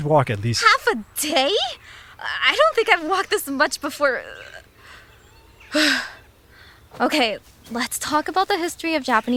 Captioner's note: huffs